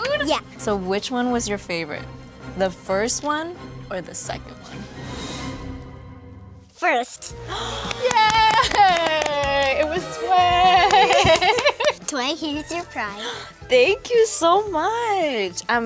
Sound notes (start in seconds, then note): 7.4 gasps